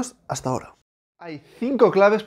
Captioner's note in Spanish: Silencio